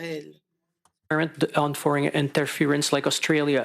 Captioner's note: speaking French